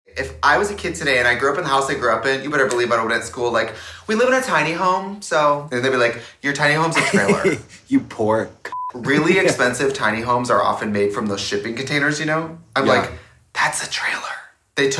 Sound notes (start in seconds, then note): 2.6 snaps; 6.9 woman laughs; 8.6 beeps